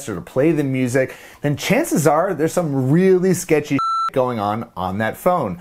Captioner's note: beep